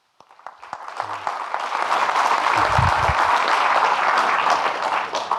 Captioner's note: audience clapping